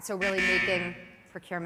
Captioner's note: buzzer rings twice